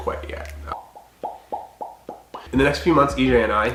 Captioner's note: popping noises